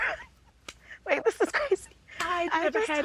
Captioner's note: chuckles softly